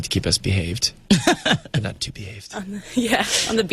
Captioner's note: Uzo laughs; laughs